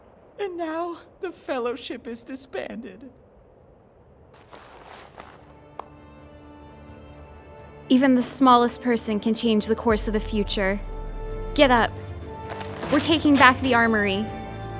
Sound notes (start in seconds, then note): none